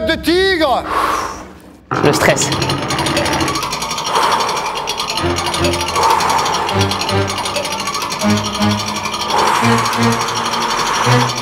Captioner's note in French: Souffle